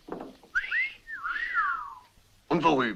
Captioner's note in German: alle pfeifen